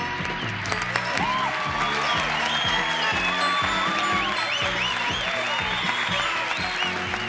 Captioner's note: applause and cheering